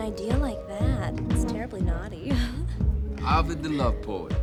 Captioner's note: laughs